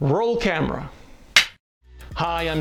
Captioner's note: clap board claps